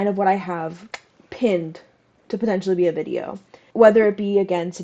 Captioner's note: clicks tongue